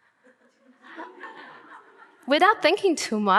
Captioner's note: audience laughing